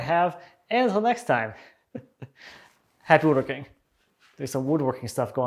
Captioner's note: chuckles